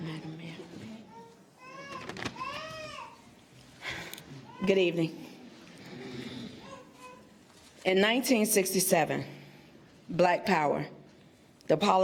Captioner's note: laughter